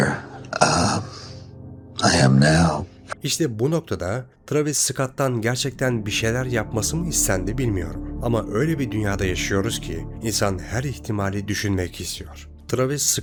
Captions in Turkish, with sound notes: [boğazını temizler] [homurdanır] bu noktada Travis Scott'tan gerçekten bir şeyler yapması mı istendi bilmiyorum ama öyle bir dünyada yaşıyoruz ki insan her ihtimali düşünmek istiyor. Travis